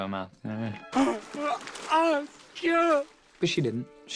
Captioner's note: grunting